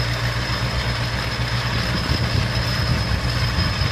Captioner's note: engine rumbling